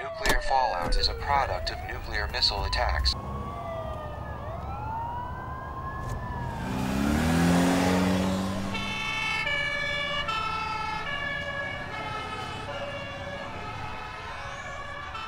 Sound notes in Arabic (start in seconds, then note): 3.9 صافرات الإنذار في حالات الطوارئ تدوي; 8.8 صافرات الإنذار في حالات الطوارئ تدوي